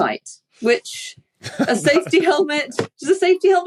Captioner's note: chuckles